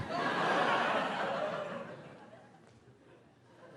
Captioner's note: crowd laughing